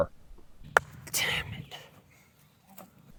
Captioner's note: ball clanking